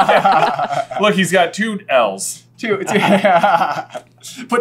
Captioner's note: laughter; laughter